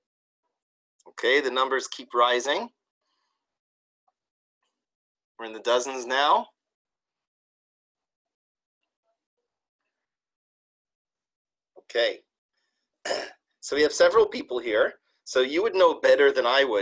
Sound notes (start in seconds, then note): 13.0 cough